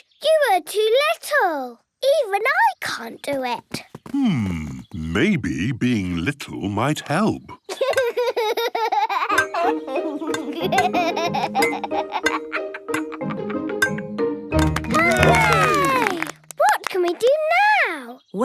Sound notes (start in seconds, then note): 8.2 laughs; 14.6 all cheer